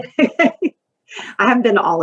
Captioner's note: laughs